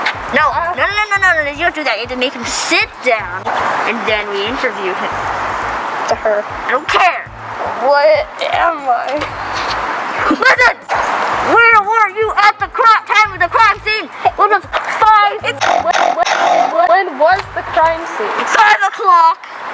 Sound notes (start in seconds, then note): 15.5 snort; 15.6 epic snort